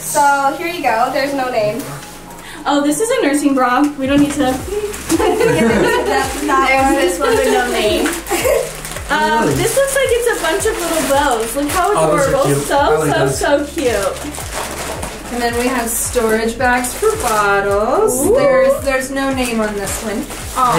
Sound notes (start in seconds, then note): 4.8 chuckles